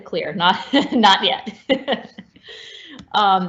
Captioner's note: laughs